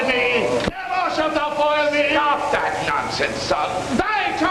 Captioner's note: incoherent raging